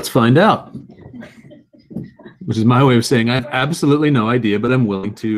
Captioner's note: laugh